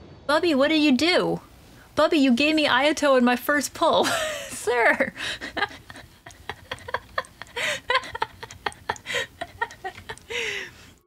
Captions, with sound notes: Bubby, what did you do?? Bubby, you gave me Ayato on my first pull. SIR. [laughter] [laughing continues]